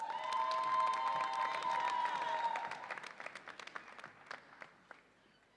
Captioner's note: audience applauds and cheers